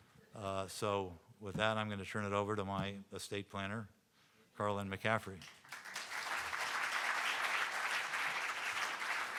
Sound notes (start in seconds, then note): 5.5 audience applauding